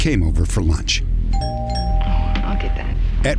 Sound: doorbell ringing

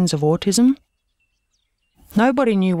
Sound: none

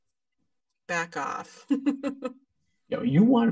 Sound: laughs

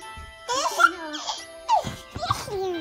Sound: giggling

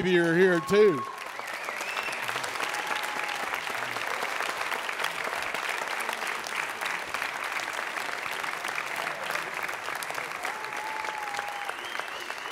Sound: audience Cheers

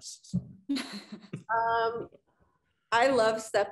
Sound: woman chuckling

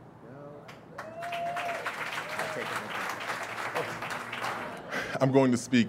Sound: audience cheers and applauds

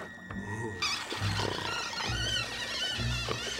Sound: snoring

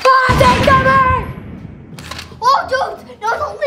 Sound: bomb explodes

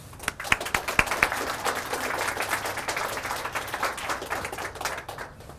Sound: audience Clapping

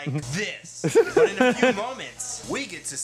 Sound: both laugh

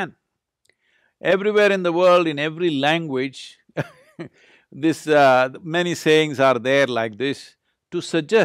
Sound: laughs

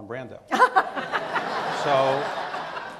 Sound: Rita laughs; audience laughs

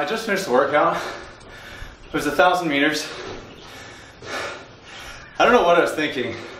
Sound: breathing very heavily

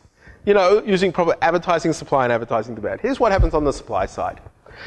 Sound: none

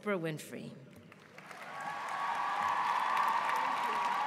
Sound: applause

